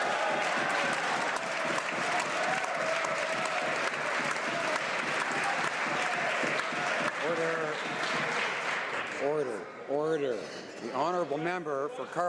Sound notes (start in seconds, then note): 3.7 some Applause